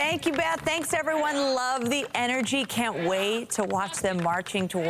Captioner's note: applause